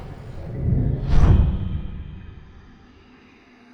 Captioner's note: portal wobbles